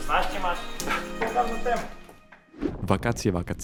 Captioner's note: laughs